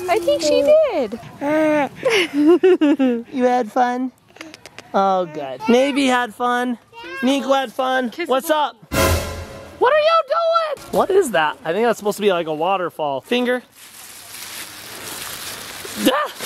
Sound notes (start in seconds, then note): 1.2 laughing; 1.7 cooing; 4.3 kissing; 8.9 suspense sound effect; 13.7 bag rustling